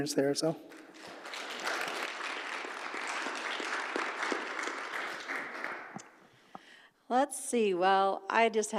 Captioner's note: applause